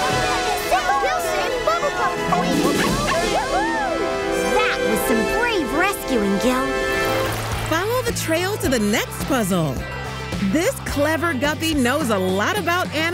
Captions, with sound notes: You saved Bubble Puppy! [cheering] That was some brave rescuing, Gil. Follow the trail to the next puzzle. This clever guppy knows a lot about animals